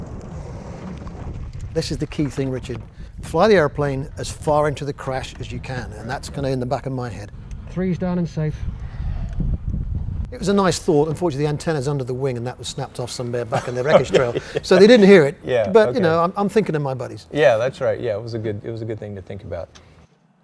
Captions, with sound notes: This is the key thing, Richard. Fly the airplane as far into the crash as you can And that's kind of in the back of my head. Three's down and safe. It was a nice thought unfortunately the antennas under the wing and that was snapped off somewhere back in the wreckage trail. Yeah. (laughing) So the didn't hear it, but you know, I'm thinking of my buddies. Yeah, that's right, it was a good thing to think about.